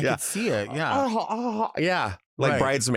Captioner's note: moans sensually